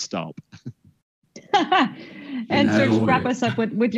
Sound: chuckles; laughs

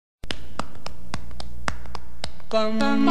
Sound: soft clapping

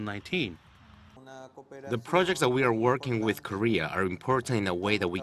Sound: spanish

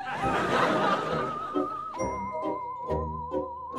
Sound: audience laughing

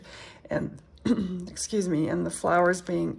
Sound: clears throat

